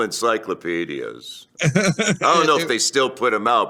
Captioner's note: laughs